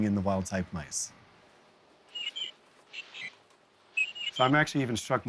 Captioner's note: stilted chirping